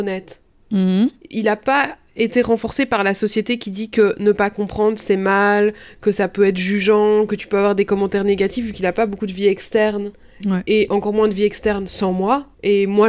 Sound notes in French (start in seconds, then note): none